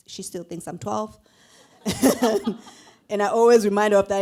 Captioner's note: laughter